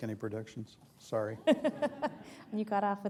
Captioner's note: laughter